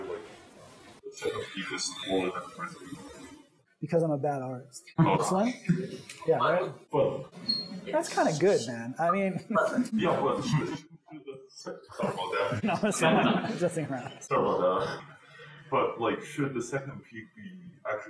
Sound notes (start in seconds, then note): 11.9 laughter